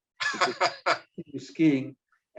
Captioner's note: laughs